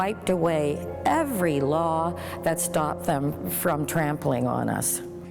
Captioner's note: exhales